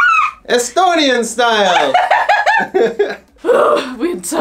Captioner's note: laughing